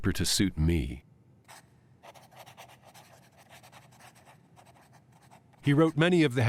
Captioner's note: writing utensil scratching